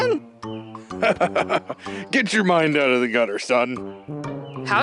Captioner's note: chuckles